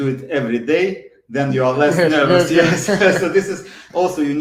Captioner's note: laughs